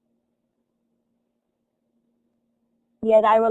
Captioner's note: silence